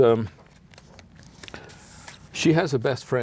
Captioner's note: pages turn